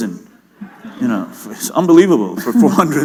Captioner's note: laughter